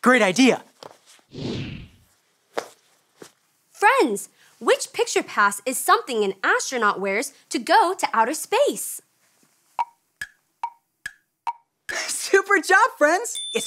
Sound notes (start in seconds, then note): 11.4 clock ticking